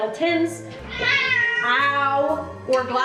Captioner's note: cat meowing